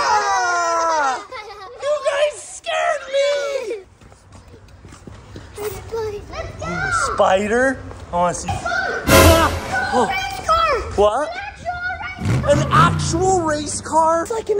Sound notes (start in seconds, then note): 0.1 everyone screams; 9.1 shrieks